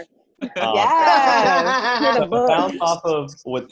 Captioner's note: all chuckling